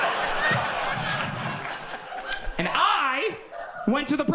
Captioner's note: audience laughs